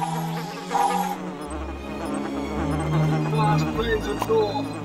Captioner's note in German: summend; Signal ertönt; lautes Summen; schnelles Piepen